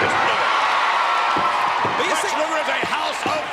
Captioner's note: crowd cheering